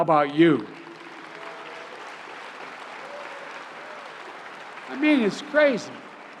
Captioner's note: applause